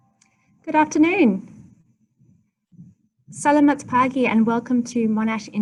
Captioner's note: speaks in foreign language